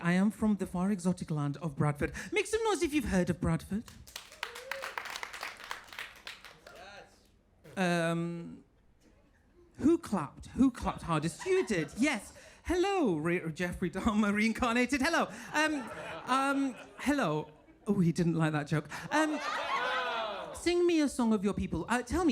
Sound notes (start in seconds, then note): 4.0 audience applauding